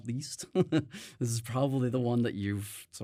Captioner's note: chuckles